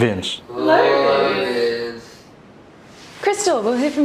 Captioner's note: in unision